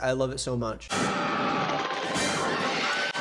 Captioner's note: mangler booms; people exclaim; dramatic music; woman screams